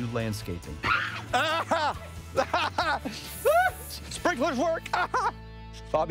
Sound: screaming

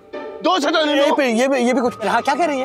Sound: speaks Japanese

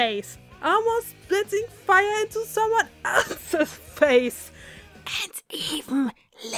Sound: cough

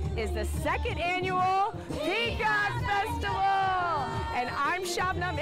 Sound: multiple Voices

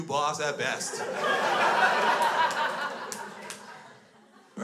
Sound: crowd laughs

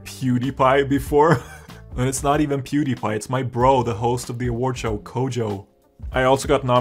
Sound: laughs

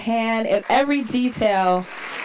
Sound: applauds

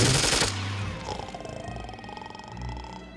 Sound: machine gun shooting; snoring

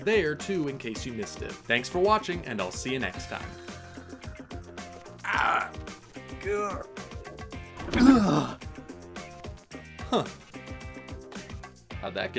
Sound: grunts

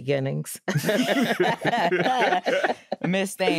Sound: all laughing

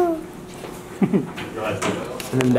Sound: dad laughs

